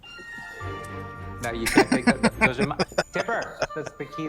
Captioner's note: laughing